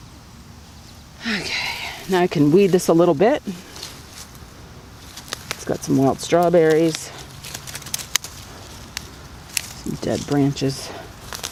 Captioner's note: sigh